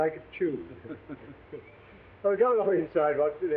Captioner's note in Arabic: كلاهما يضحك